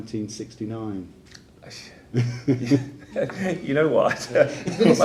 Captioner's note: laughing